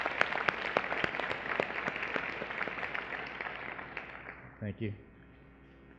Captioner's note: applause